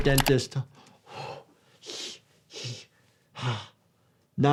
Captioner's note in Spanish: respiración